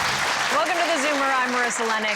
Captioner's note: orchestrated music; crowd clapping